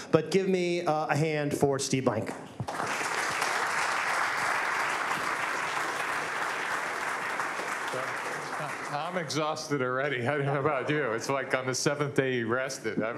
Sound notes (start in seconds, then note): 2.6 applause